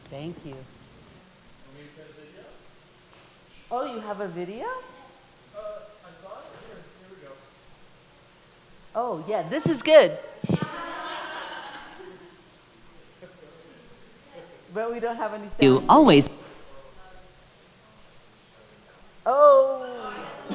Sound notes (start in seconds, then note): 10.5 laughter